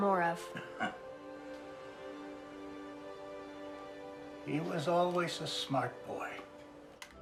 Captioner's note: chuckling